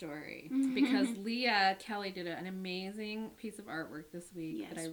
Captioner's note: laughs